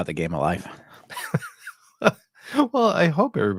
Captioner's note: laughing